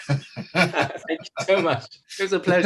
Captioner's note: laughs